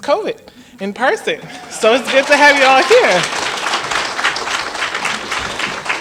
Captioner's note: applause